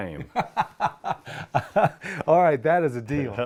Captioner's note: laughter